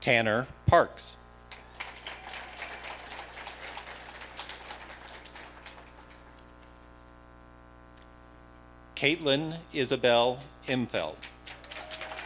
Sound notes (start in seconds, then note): 1.5 audience applauding; 11.2 audience applauding